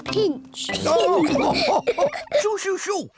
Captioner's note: all laugh